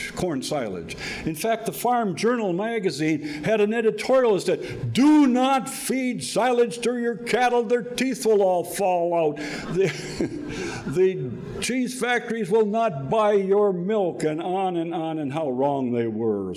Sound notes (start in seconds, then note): 11.9 laughing